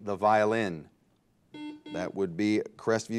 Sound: bell rings

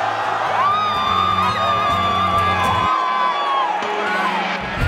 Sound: screams

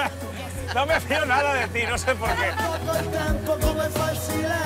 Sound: laughs

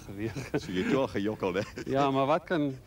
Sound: laughs

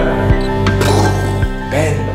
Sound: explosion sound

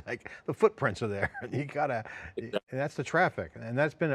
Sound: laughs

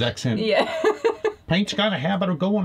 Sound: laughing

